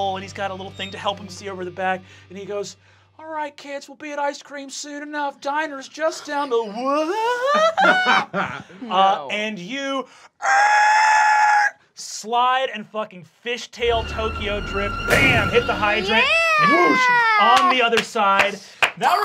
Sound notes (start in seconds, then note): 6.1 Fabian laughing; 9.7 screeching; 17.4 clapping